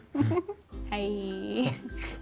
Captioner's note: laughs